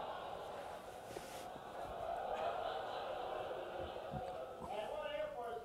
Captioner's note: audience laughter